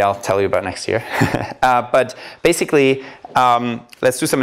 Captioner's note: laughter